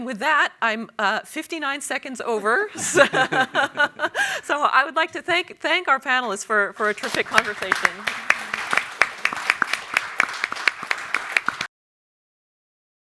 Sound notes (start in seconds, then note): 2.8 panelists laugh; 6.8 everyone applauds